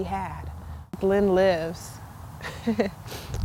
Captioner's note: chuckle